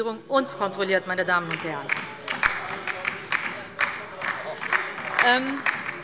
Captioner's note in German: Beifall bei der LINKEN - Zurufe von der CDU